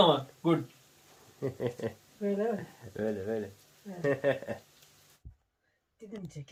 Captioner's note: speaking in Foreign language